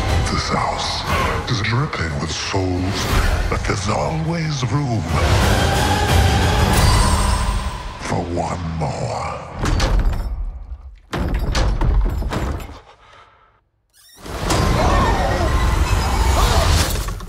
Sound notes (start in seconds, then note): 10.6 door opens; 14.2 screams